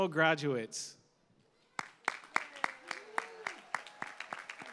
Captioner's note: applause